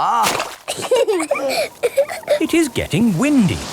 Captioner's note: both laughing